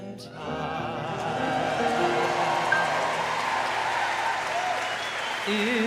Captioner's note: audience applauding